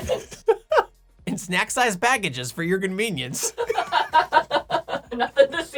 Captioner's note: laughing; laughing